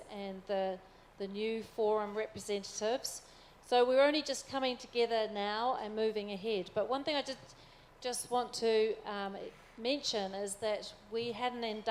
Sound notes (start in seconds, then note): none